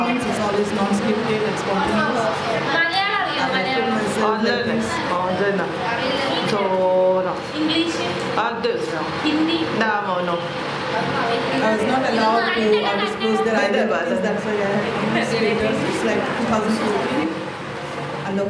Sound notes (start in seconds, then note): 1.9 non-english speech